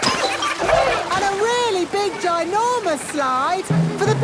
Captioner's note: lift moving